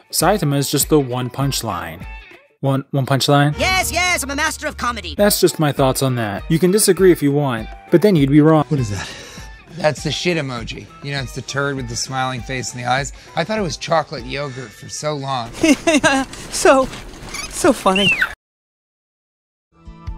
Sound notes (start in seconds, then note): 15.5 Bolin from "The Legend of Korra" laughing nervously; 17.8 red panda squeaks painfully